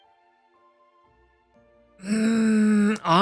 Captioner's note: groans